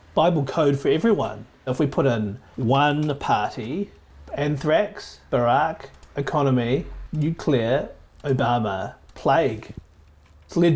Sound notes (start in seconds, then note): 2.9 keyboard clicking; 5.8 mouse clicking; 8.1 mouse clicking